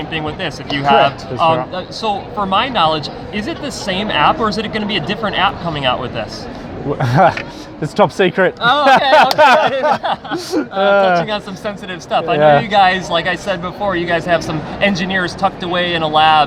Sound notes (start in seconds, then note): 8.6 laughs